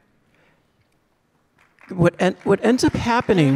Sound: audience clapping

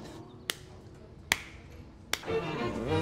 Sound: claps; classical music

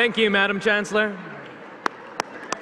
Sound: applause

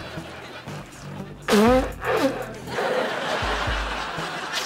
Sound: blowing nose

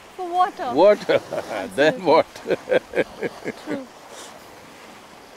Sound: laughs

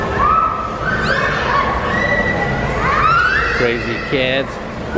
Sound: yelling

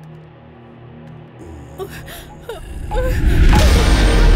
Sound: crying

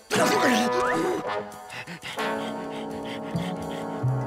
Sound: panting

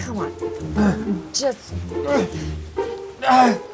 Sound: whines

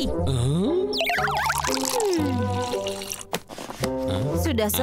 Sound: pouring milk

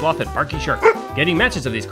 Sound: bark

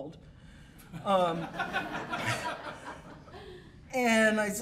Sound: laughter

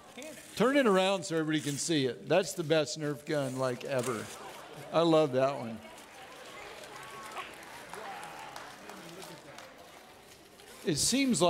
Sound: audience laughing and clapping

